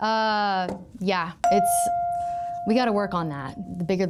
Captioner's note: chime pings